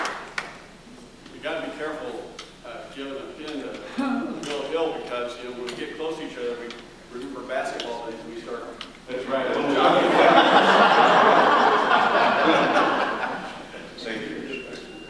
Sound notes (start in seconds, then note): 9.4 laughter